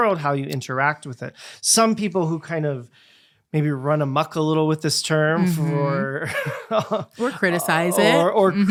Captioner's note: chuckles